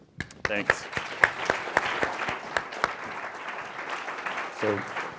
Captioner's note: applause